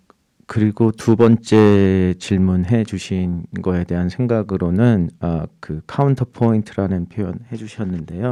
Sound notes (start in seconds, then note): 0.6 speaking in Korean